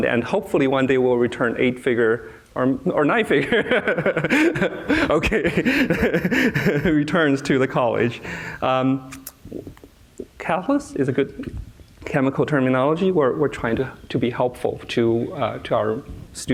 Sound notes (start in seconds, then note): 3.4 laughs; 6.1 continues laughing